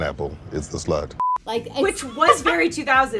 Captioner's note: beep